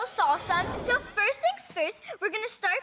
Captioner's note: color logo swooshes